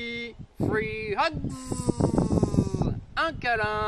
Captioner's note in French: en anglais